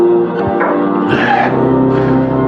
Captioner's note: exhxhalales